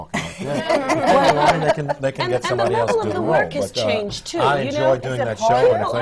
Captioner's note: laughter